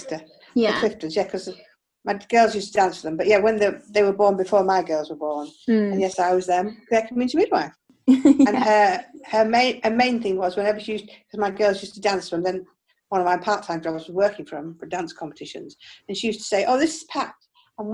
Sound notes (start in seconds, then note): 8.1 laughs